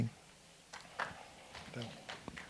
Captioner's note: applause